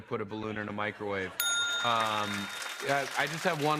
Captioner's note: laughter and applause; ding!